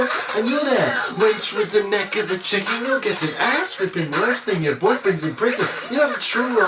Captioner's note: haha!